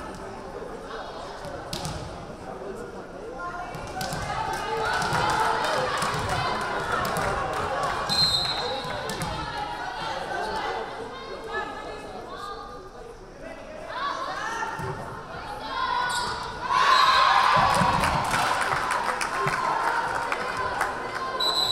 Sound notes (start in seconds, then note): 8.1 whistle blaring; 16.6 crowd cheering; 16.8 whistle blaring